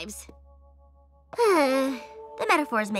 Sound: sigh

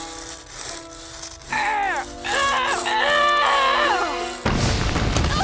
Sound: groaning

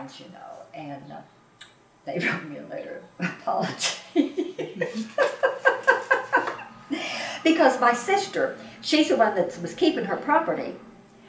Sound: laughs

